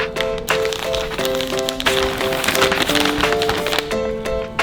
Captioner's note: wrapper crinkling